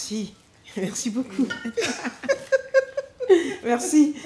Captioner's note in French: choc de bouteilles